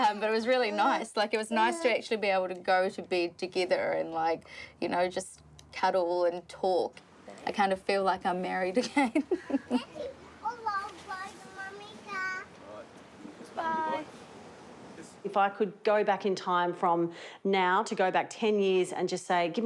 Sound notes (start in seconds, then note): 8.8 laughs; 11.1 babbles